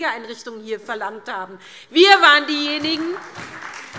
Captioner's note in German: Beifall SPD